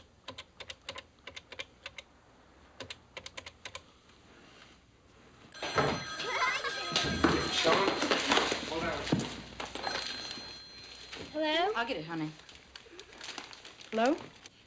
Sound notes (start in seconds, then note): 5.5 telephone ringing; 6.1 laughing